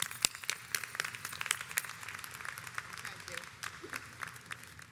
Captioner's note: audience applauds